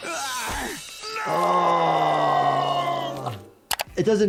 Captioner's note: groaning